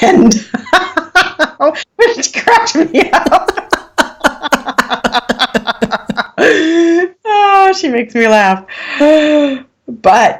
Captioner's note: laughing